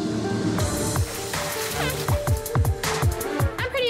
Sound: horn honks

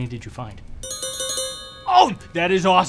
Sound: tink Bells

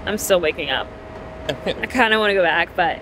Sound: chuckles

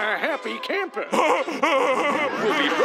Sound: laughing

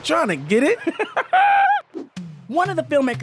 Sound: chuckles

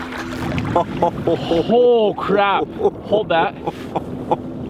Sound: laughs

